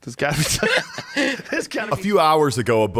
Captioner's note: laughs